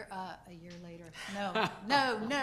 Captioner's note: man laughing